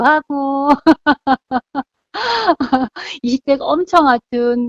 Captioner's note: laughing